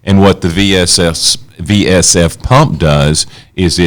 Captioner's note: none